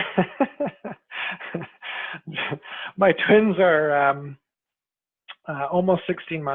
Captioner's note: laughs